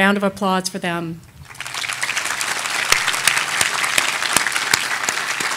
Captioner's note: audience applauding